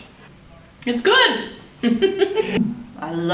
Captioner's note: laughs